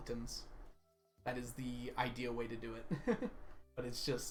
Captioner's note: laughs